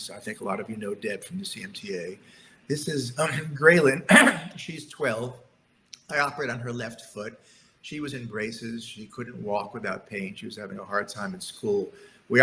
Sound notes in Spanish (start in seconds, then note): 4.0 clears throat